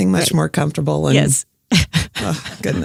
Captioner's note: laughing